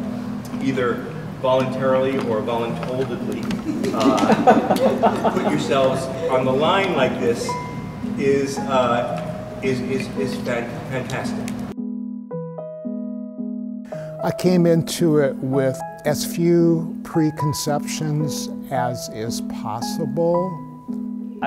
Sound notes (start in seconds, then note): 3.6 laughing; 11.6 soft piano music